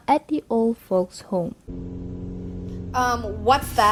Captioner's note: A car on the road sound